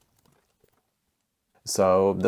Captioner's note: typing